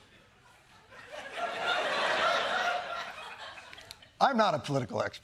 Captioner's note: laughter